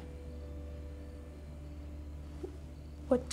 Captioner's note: crickets chirping; tense music